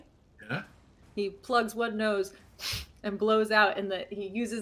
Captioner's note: blows nose